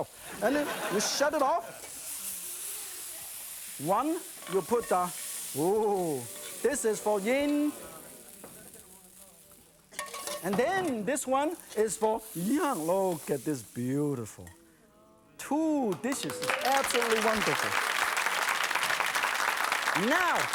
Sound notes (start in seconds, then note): 15.7 audience oohs; 18.0 audience claps